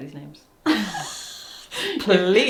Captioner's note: laughs